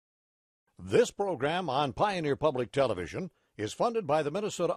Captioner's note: voiceover